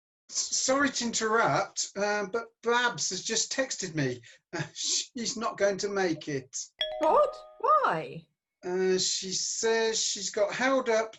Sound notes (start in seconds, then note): 6.8 text message alert